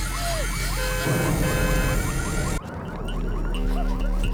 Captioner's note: Abby pants; fire roars; car alarm blares